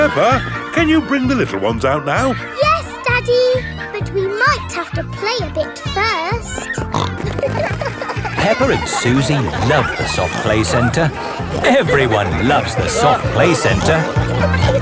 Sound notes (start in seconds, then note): 6.9 snorting